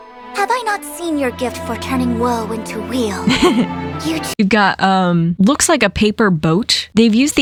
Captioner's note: laughs